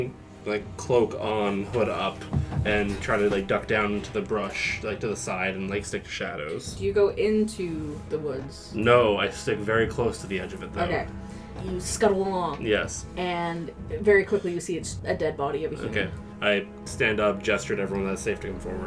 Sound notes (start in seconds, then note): 14.1 flatly